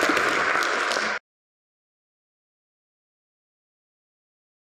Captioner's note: applause; audience applauding